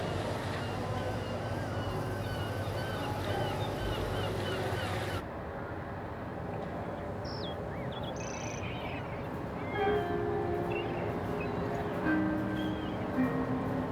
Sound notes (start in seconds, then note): 1.2 multiple seagulls squawking; 8.0 tinny birdsong